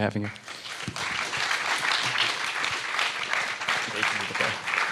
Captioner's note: audience applauding